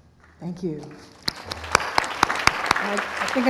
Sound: applause

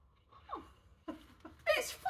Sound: laughing

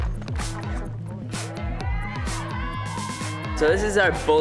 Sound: cast cheering

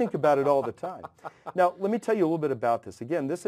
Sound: laugh

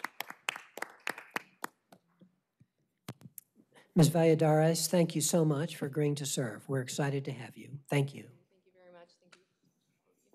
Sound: applause

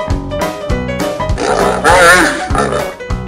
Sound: hippo snorting sound

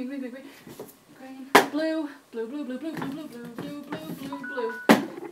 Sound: timer chime

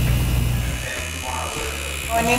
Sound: buzzing

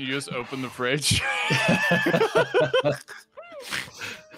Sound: all laugh

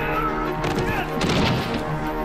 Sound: thuds

